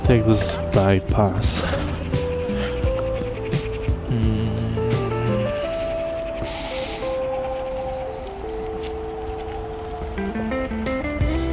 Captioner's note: wind Blowing